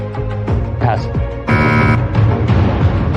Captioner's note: buzzer sounds